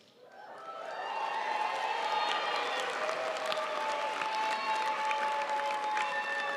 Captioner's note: audience cheering and applauding